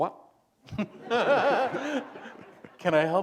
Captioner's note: laughter